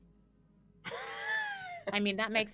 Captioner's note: laughs